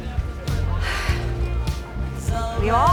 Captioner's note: sighs